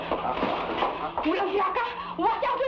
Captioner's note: woman speaking in Tagalog